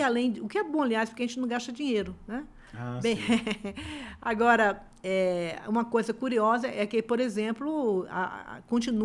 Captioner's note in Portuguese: risadas